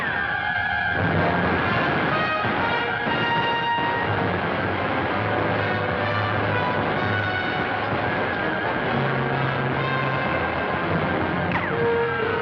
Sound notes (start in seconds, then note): 1.0 gunshots